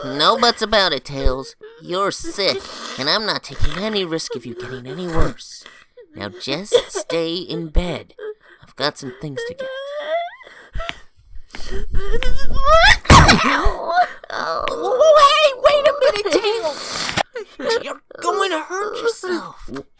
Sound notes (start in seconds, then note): 13.4 gasps